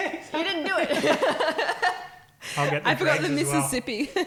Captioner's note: laughing